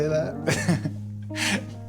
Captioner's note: laughing